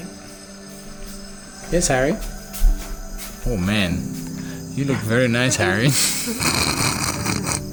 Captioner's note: both laugh